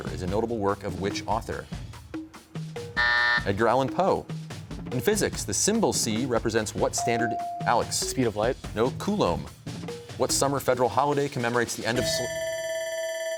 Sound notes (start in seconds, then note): 3.0 buzzer sounds; 12.0 bell rings